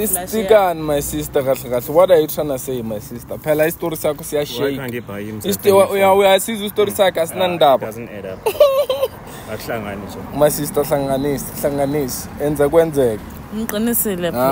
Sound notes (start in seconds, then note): 4.6 laughs